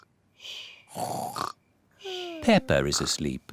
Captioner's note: snores